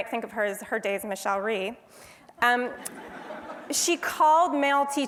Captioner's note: laugh